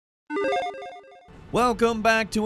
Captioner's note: electronic tones